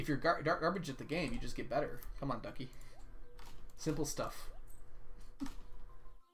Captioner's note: chuckles